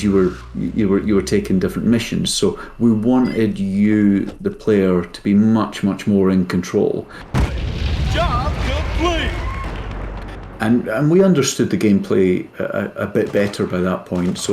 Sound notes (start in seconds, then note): 7.2 explosion erupts